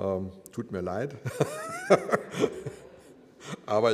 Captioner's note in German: lacht